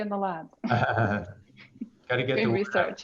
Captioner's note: laughs